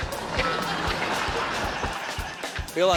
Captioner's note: laughter